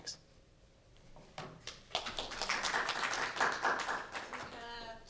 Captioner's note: applause